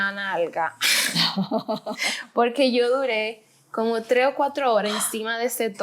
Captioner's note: laughter